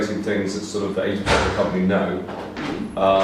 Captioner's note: thumping drowns out speaker